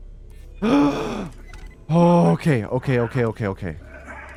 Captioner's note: gasps